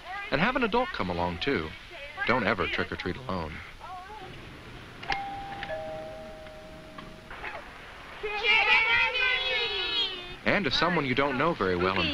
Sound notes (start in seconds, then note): 5.0 bell ringing